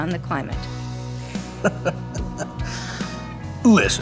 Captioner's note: wealthy chuckling